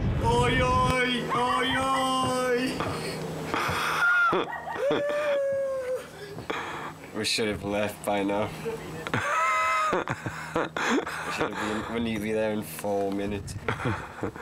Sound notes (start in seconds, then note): 4.4 laughs; 8.7 laughs